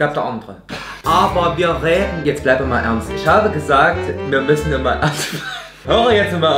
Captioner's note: laughs